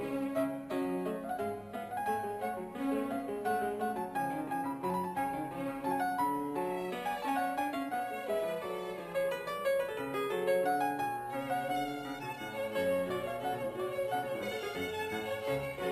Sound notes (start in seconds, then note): none